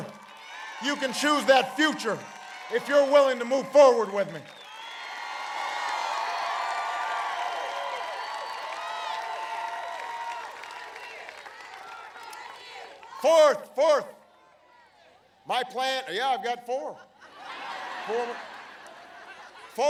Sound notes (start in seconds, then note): 9.8 applause; 19.6 laughter